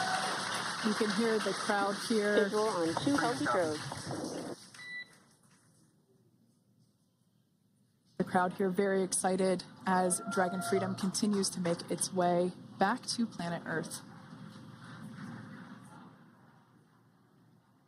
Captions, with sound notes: WE ARE AWAITING THE DEPLOYS. THIS VIEW COMING FROM THE WB57 HIGH ALTITUDE PLANE. [APPLAUSE]